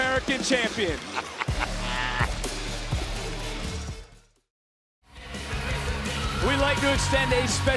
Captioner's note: laughs